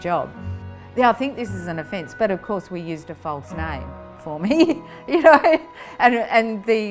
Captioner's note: laughter